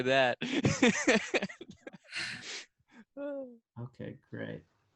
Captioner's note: laughing